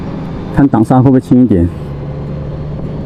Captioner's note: engine brake